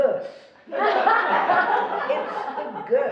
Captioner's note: laughing